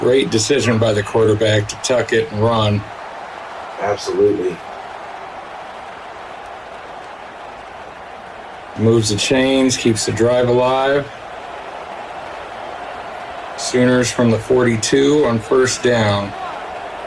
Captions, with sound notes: Great decision by the quarterback to tuck it and run. Absolutely. [Crowd cheering] Moves the chains, keeps the drive alive. Sooners from the 42 on first down.